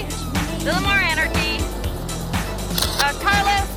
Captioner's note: camera shutter clicking